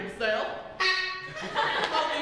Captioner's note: honk; laughter